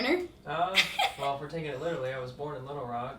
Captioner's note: laughs